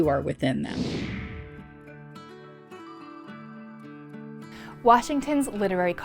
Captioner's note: screen whooshing; calm music